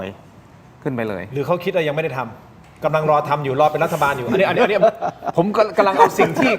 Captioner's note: laughs